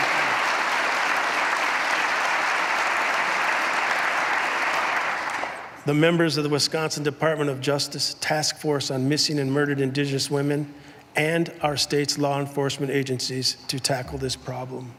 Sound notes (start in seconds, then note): 2.1 applause